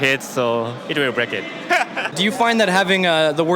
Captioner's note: laughs